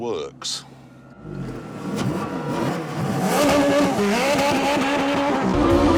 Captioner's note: engine revving